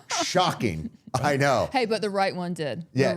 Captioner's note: laughing